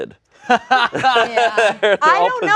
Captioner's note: laughing